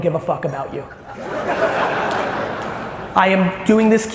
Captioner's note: audience laughs